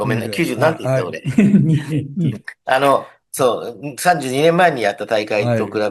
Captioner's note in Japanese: 笑い